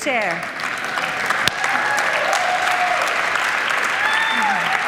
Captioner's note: audience applauding